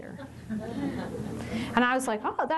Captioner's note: chuckles